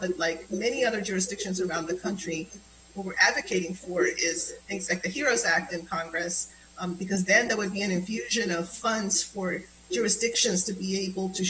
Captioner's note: spanish